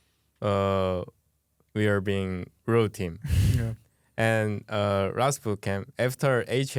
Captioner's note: laughs